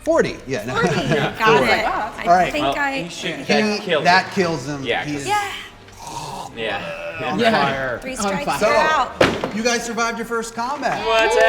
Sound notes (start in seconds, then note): 5.9 gagging noises